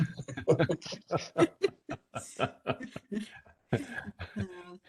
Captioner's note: laughter